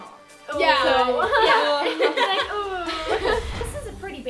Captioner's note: laughs